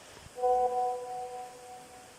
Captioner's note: message alert tone